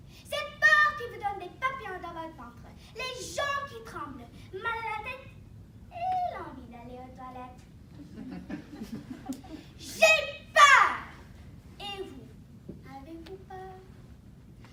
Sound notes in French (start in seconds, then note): 7.9 rires